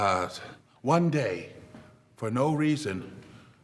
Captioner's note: none